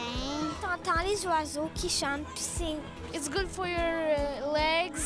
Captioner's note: speaking French